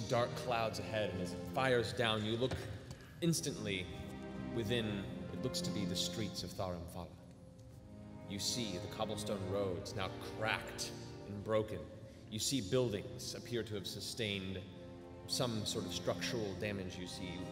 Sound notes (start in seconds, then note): none